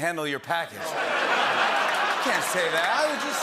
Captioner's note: laughter